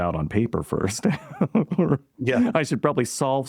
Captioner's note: laughter